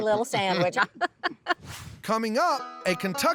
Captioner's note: laughs